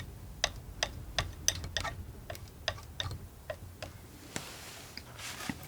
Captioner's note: tapping